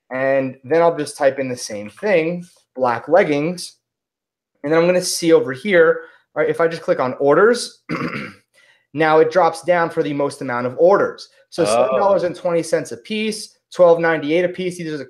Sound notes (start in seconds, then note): 7.8 clears throat